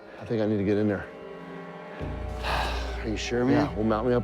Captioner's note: sighs